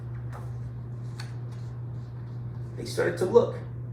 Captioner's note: page rustling